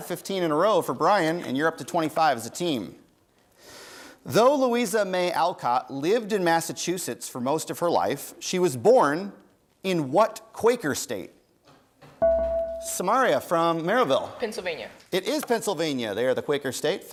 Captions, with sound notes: 15 in a row for Bryan, and you're up to 25 as a team. Though Louisa May Alcott lived in Massachusetts for most of her life, she was born in what Quaker state? (bell rings) Samaria from Merrillville. >> Pennsylvania. >> It is Pennsylvania, they are the Quaker state.